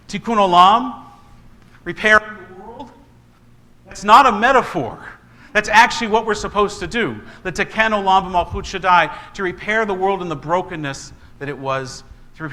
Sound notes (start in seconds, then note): 7.6 speaking in foreign language